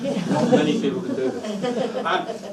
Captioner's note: group laughs